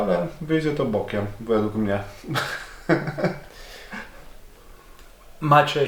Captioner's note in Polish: śmiech